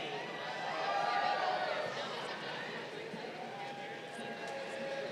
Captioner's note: crowd cheering